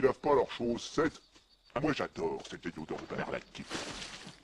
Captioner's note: splash